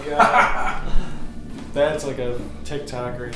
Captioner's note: laughing